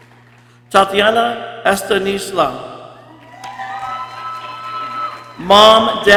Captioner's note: people cheering